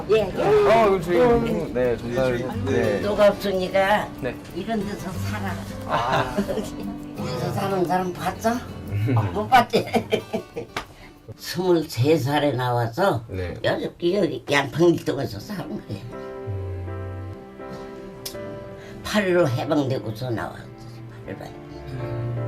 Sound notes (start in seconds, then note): 8.8 laughs